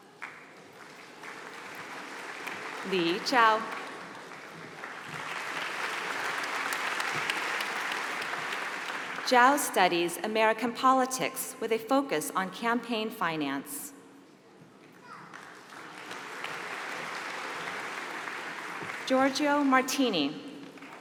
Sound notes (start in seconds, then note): 0.6 applause; 15.0 applause